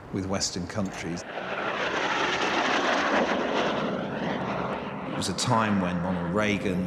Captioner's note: jets roaring